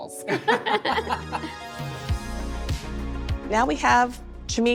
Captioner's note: laugh